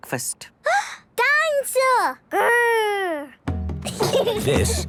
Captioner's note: gasps; children giggling